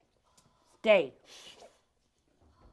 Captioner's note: commanding